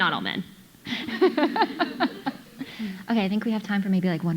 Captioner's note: audience laughing